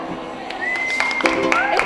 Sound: cheers

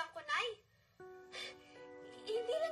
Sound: exhales

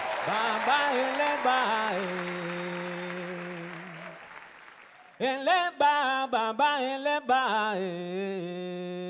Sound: chanting in foreign language

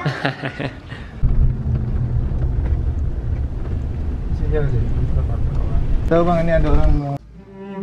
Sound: giggles; engine sound

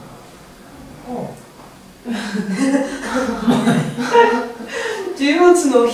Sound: laugh

